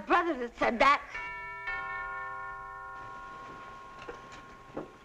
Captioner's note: doorbell ringing